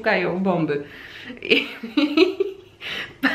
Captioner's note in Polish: śmiech